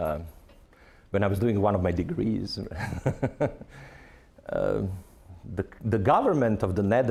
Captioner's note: laughing